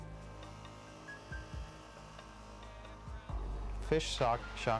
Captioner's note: generator humming